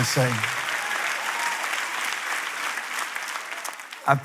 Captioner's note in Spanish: Aplausos